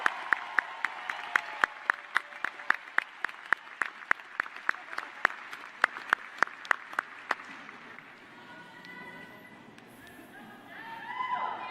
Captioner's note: applause; cheers and applause